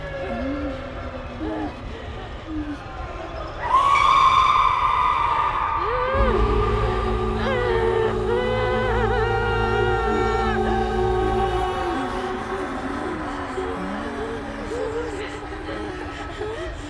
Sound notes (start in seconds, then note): 3.8 woman screams; 8.5 Brigit moaning